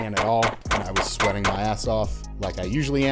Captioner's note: gun firing